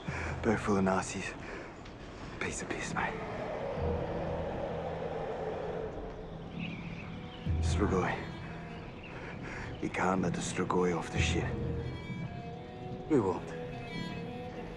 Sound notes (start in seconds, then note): 2.5 The Patriarch shrieking; 3.4 wind whistling